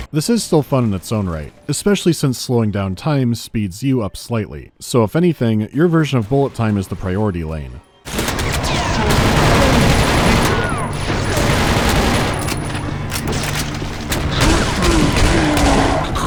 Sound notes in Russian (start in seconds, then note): 8.9 рататататат; 14.3 банг-банг-банг-банг; 16.1 булькающий хрип